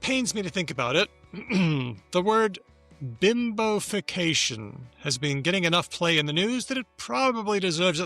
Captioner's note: clears throat